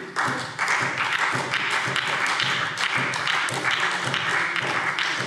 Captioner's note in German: Beifall SPD